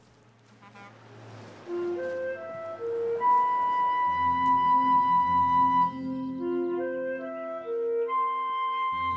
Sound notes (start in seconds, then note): 1.0 traffic hums; 3.3 brooding instrumental music